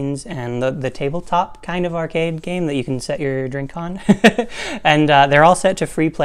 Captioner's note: laugh